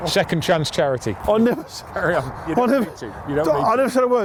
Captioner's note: laugh